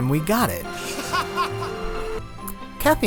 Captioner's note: laughter